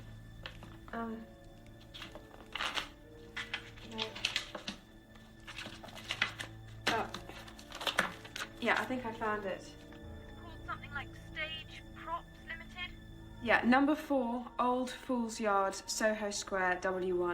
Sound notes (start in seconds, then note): 0.1 tense music continues; 5.0 paper shuffles